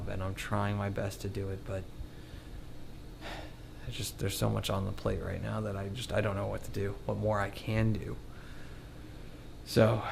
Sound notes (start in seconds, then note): 3.2 sighs